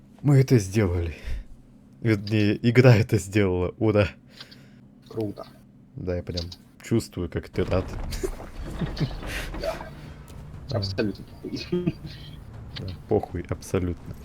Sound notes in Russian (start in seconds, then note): 8.8 смех